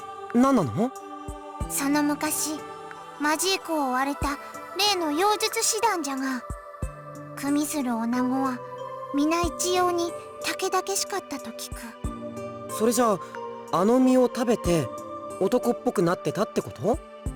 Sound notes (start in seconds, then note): none